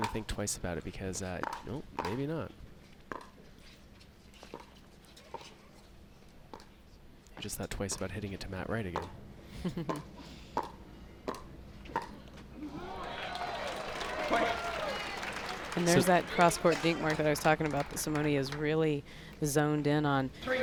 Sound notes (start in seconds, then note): 12.7 crowd applauds